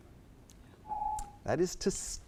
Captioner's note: timer beeps